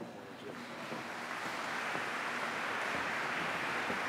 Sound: applause

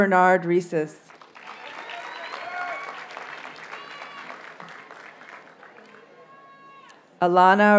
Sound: audience cheers and applauds

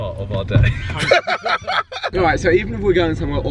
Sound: laughing

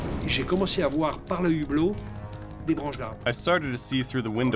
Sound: speaking in foreign language

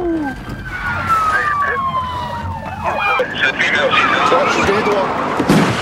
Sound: siren

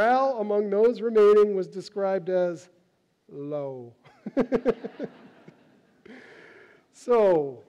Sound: laughs

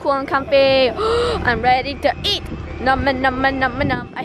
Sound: excited gasp

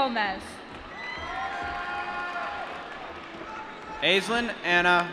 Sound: applause

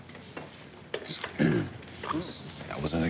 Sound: clearing throat

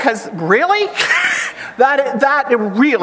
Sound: chuckles

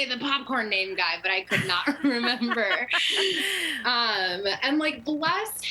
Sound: laughter

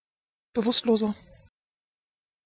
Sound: fast Pronunciation

